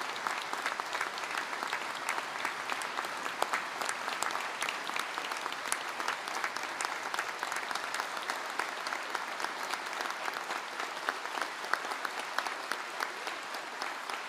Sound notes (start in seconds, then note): 0.0 applause